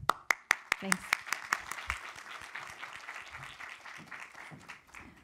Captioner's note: audience applauding